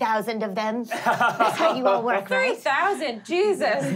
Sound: laughing

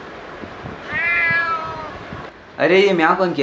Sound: meow

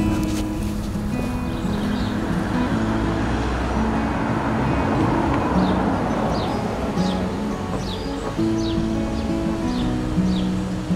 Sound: sounds of traffic

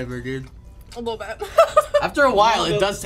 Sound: laughs

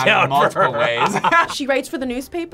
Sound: both laugh

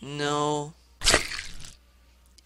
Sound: squish

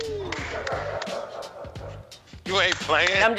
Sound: laughter

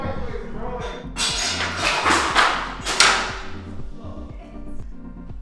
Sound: objects clanking

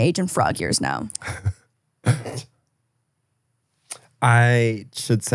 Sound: laughing

